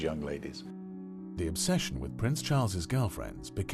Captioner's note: voiceover